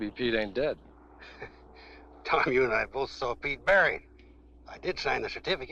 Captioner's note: chuckling